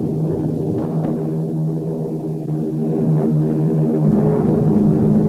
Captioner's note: plane engines revving